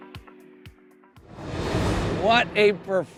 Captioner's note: upbeat music continues; graphics whooshing